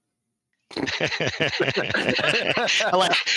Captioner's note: both laughing